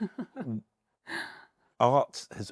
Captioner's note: laughs